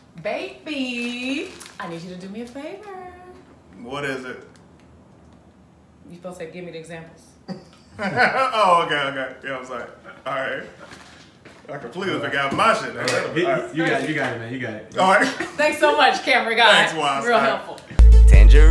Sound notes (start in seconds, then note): 7.4 laughs